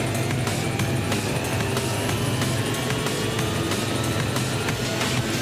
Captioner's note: vehicle zapping